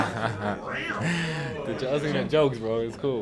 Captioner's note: laughter; meow